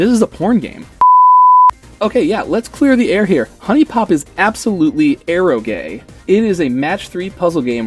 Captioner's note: color beep